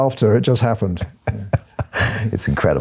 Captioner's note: laughing